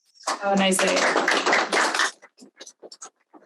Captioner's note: audience applauds